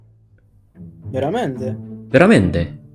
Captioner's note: Italian